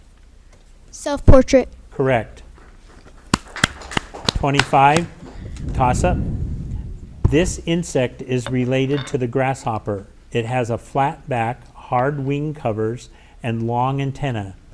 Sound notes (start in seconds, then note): 3.4 audience applauding